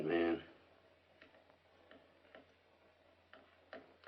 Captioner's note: silence